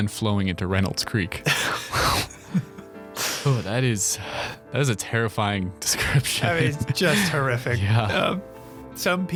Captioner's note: laughing